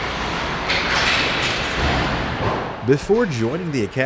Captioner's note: puck clattering